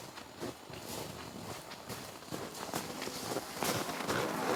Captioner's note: muffled footsteps